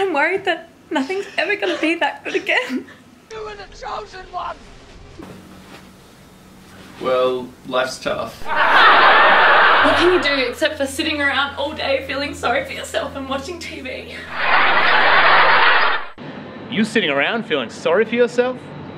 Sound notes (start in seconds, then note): 8.4 laughing; 14.2 laughing